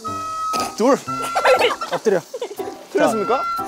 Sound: laughing; laughs

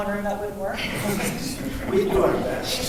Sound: laughing

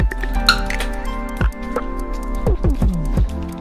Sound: door opening

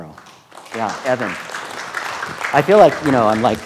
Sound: students clapping

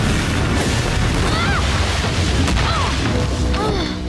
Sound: she exclaims; thud; she groans

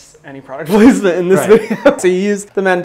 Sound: laughs

